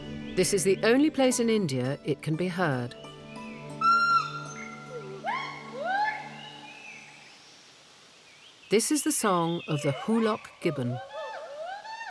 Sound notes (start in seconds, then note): 3.6 gibbons calling